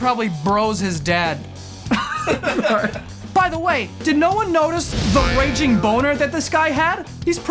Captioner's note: laughter